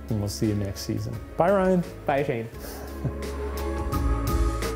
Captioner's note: chuckles; gentle upbeat music